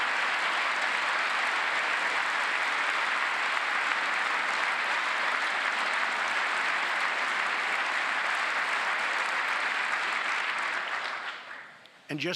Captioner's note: cheers and applause; applause